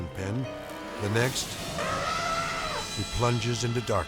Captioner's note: elephant trumpeting